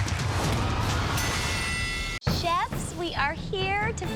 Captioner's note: bell dings